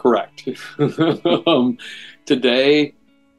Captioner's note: laughs